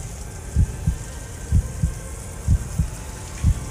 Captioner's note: heart beating; tense music